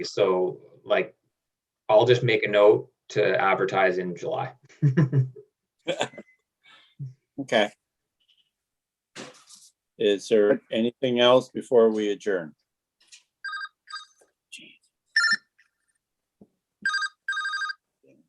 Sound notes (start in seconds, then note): 5.8 chuckling; 13.4 phone ringing